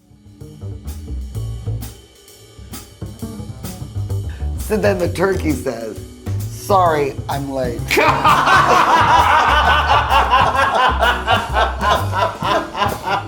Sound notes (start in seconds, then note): 0.3 relaxed jazz music; 7.9 all laugh